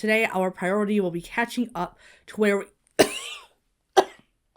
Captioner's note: Hana coughs